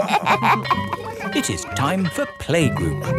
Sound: all laughing; school bell ringing

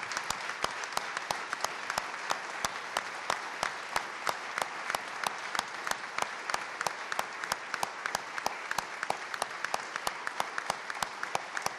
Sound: applause

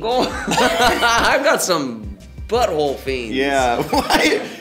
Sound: laughs

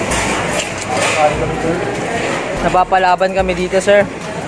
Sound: laugh

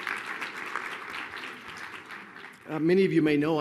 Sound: applause

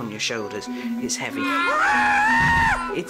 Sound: screams

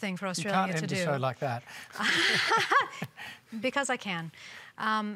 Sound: laughs

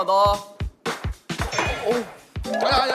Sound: thud

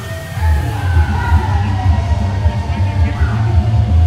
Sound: crowd cheering

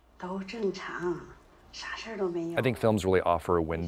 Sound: female movie character speaking foreign language

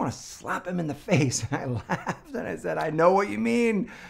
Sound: laughs

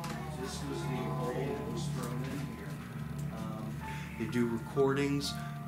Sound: crowd chattering; spooky music

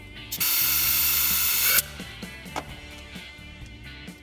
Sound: air releases

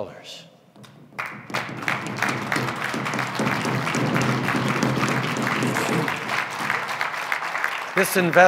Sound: drumbeats & applause

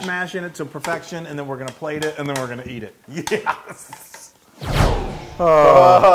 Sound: laugh

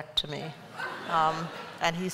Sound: laughter

